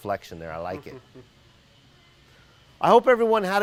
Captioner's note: laughing